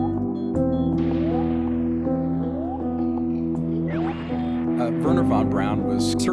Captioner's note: beeping; blooping continues